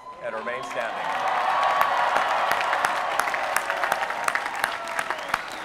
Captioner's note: applause